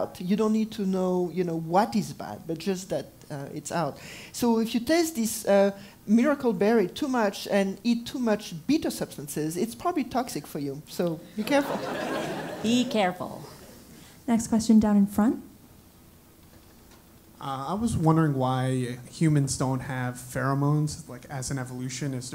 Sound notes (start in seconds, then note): 11.4 laugh